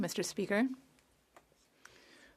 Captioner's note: speaking French